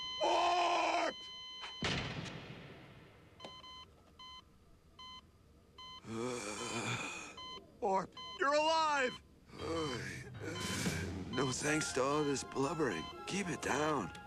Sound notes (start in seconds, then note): 6.0 groans; 9.6 groan